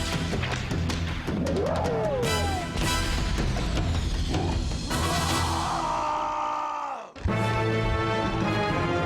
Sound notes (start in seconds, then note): 0.0 epic music; 2.3 yelling; 5.7 dramatic music